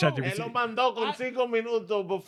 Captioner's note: speaking In Foreign Language